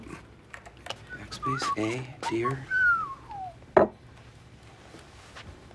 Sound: whistling

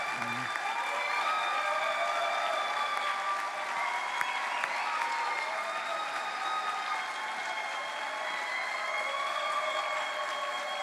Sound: cheering

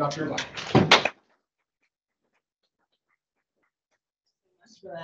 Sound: audience applauding

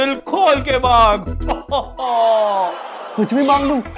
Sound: Santa laughing

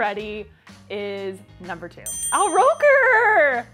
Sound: bell dings

